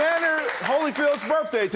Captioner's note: applause